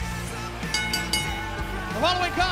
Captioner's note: bell ringing